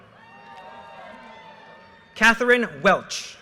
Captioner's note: audience cheers and applause